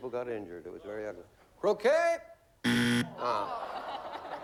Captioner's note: buzzer